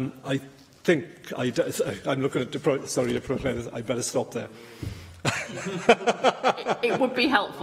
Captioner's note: laughter